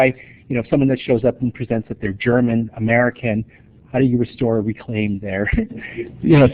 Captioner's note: laughter